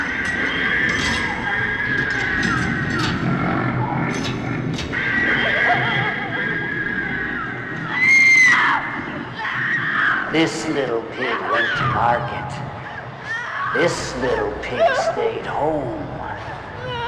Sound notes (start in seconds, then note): 5.6 Liz sobbing